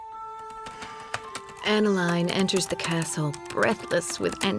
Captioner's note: inhales; typing